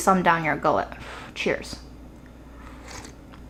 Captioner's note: air blows; water slurping